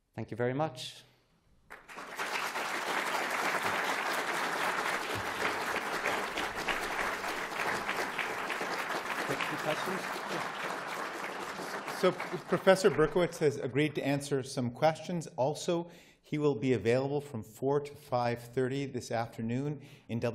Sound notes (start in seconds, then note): 1.5 applause